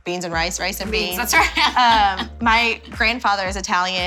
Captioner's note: laughs